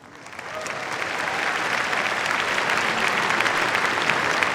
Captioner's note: applause